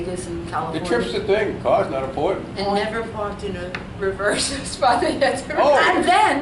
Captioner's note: laughs